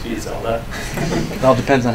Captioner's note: laughter